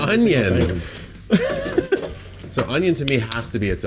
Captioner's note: laughs